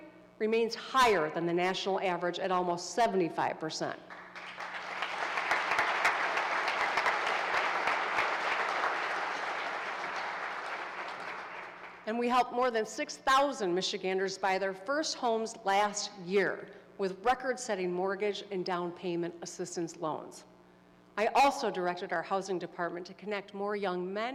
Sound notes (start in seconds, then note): 6.3 applause